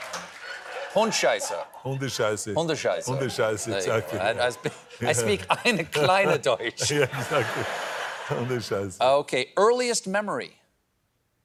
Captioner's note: speaking german